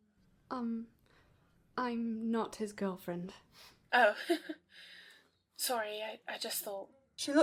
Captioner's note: laughs